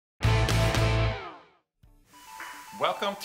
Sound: musical sound effect

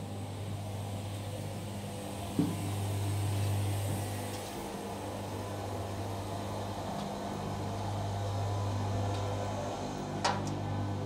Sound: electrical noises

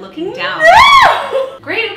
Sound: laughing

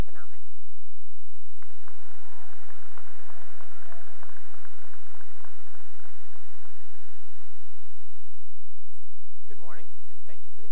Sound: cheering and applause

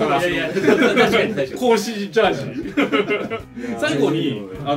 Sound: laugh

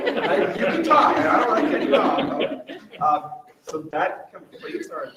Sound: members laugh

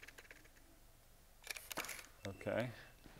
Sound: camera shutter clicks

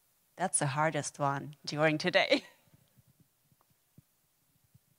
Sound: laughs

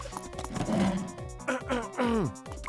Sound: clears throat

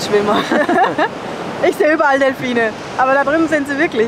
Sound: laughs

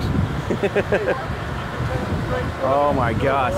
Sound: laughs

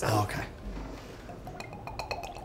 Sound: bourbon drips

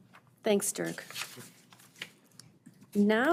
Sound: page fluttering

